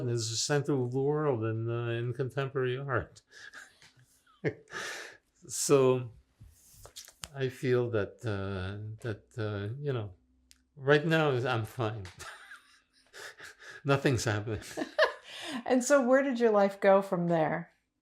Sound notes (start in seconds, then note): 13.1 laughing